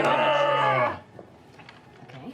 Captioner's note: cheering